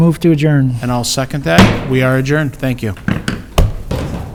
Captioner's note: gavel bang